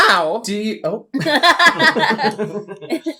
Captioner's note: witches Cackle